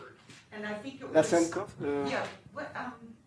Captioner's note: non-english